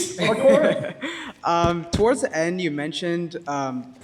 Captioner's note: laughs